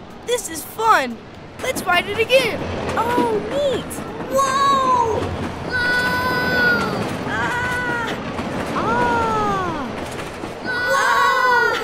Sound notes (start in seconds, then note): 5.6 heart heroes yelling